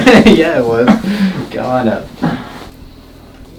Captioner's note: laughing